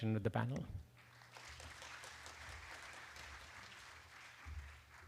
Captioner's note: applause